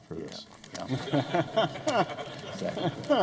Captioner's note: laughter